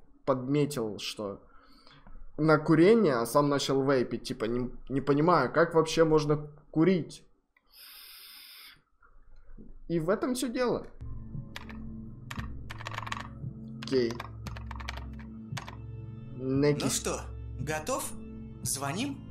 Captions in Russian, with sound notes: подметил что на курение а сам начал вейпить типа ни понимаю как вообще можно курить и в этом всё дело. (опять звуки супер-пупер невидимой геймерской клавы) ну что готов? звоним??